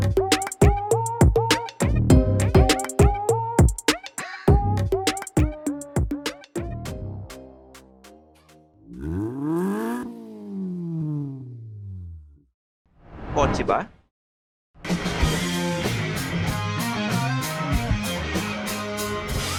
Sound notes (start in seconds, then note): 8.8 engine revs